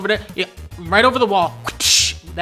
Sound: imitates whipping sounds

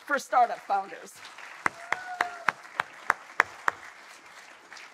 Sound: audience applauding

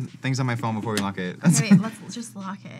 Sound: laughs

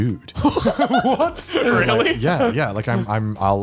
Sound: laughs

